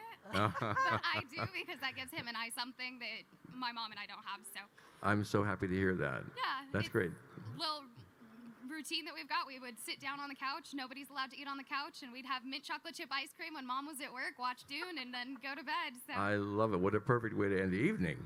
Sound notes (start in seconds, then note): 0.3 laughing; 15.8 laughing